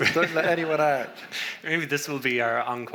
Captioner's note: audience laughs